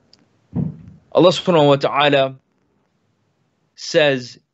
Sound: speaks in foreign language

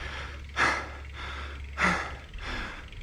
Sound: panting

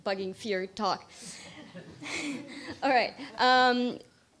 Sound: laughs

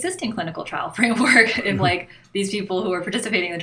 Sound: chuckle

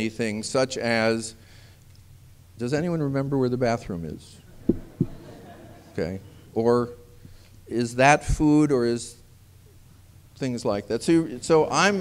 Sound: laughter

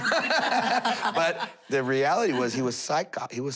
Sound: laughter

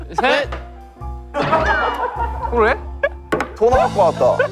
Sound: staff members start laughing

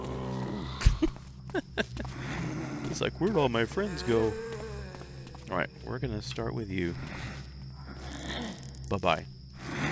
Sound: laughs

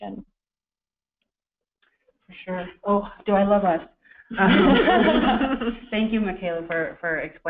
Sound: laughter

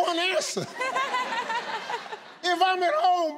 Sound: audience laughs

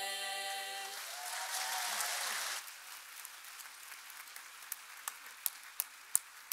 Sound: audience applauding and cheering

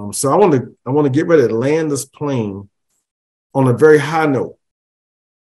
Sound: none

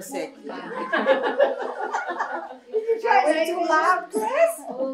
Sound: laughter

